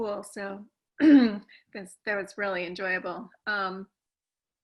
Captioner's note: cough